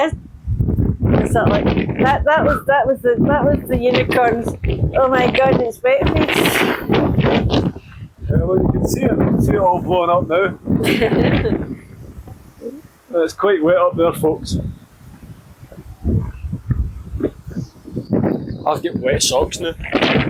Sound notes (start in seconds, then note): 10.8 laughter